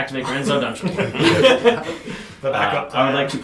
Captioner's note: all laugh